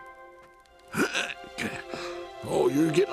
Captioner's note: straining